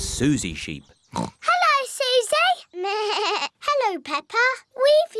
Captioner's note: oinks; bleats